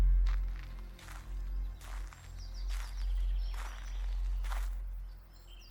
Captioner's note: footsteps thumping